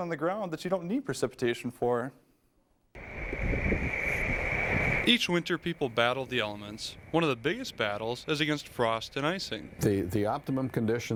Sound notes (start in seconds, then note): 3.7 voiceover